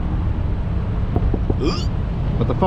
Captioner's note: taps on window